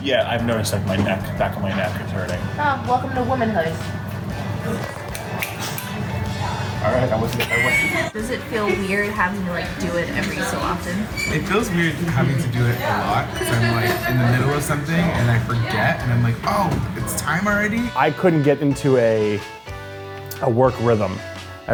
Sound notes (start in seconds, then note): 6.3 laughs